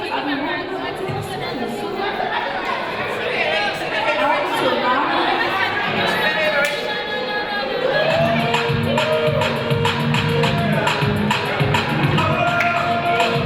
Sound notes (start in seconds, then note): 7.6 audience shouting; 10.1 upbeat music